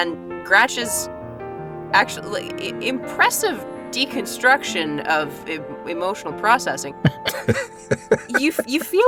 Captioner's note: chuckle